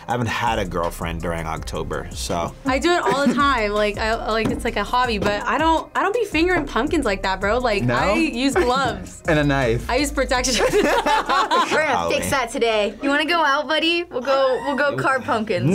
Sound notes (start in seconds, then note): 10.5 both laugh; 13.7 screams